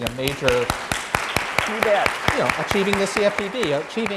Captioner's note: applause